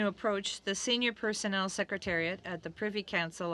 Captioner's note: speaking french